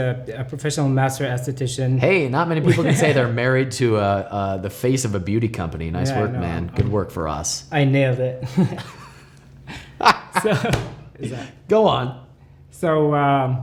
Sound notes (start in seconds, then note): 9.6 laughter